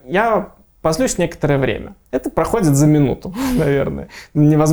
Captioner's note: laughing